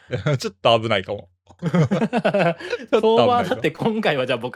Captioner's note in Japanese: 笑い